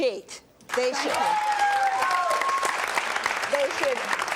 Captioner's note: applause